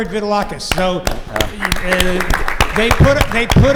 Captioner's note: applause